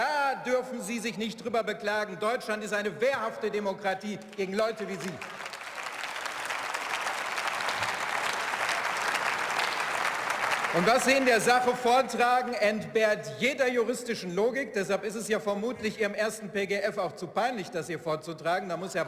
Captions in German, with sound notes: Da dürfen Sie sich nicht drüber beklagen. Deutschland ist eine wehrhafte Demokratie gegen Leute wie Sie. (Beifall) Und was Sie in der Sache vortragen entbehrt jeder juristischen Logik. Deshalb ist es ja vermutlich Ihrem ersten PGF auch zu peinlich das hier vorzutragen.